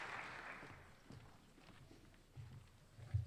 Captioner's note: applause